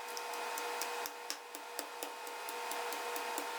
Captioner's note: pestle tapping